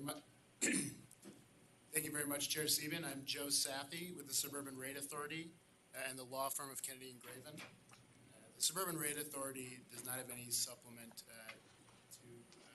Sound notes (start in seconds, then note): 0.6 clears throat